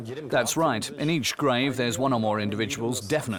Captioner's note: in German